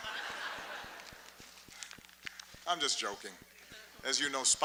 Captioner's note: laughter